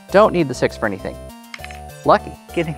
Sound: wooden tabs clattering

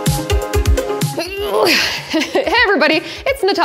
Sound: grunts

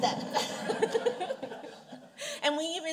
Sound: audience chuckles

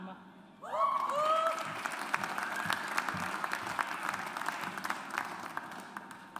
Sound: audience applauds

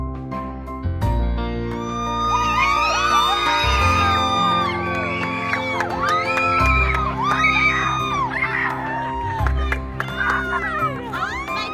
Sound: cheering

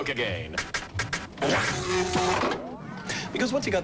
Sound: glitchy sounds; electrical surge through Coke machine

